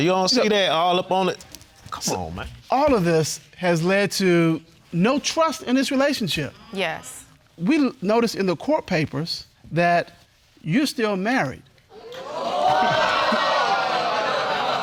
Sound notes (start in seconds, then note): 12.2 audience gasping